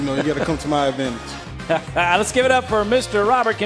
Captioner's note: laughing